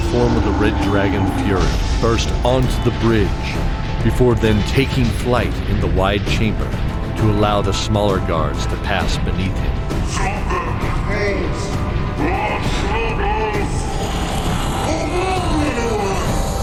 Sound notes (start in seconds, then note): 13.9 roar